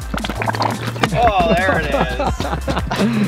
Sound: male Voice

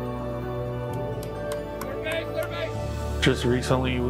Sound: clapping

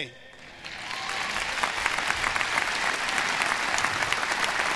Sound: audience applause

